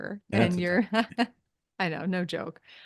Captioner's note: laughs